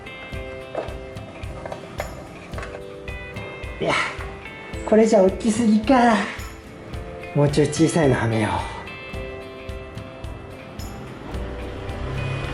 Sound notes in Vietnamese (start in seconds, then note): 9.7 cười